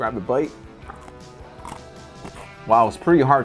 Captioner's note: snack crunching